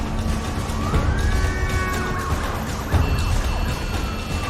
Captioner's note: siren wailing, horns honking